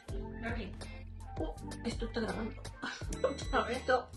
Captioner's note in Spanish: sonido: risa; sonido: piiiii